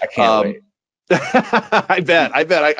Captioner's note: laughing